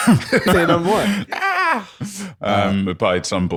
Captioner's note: laughing